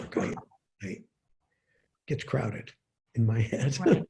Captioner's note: laughs